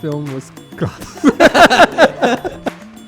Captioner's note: both laughing